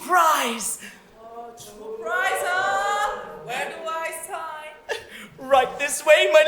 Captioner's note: audience ooohs